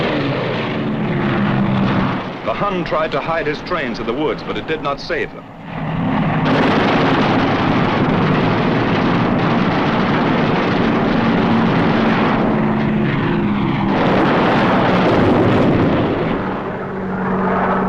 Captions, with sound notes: The Hun tried to hide his trains in the woods, but it did not save them. (guns firing)